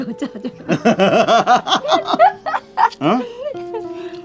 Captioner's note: both laughing